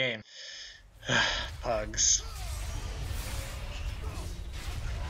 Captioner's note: sigh